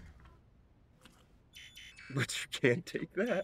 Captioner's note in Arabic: طنين الخطأ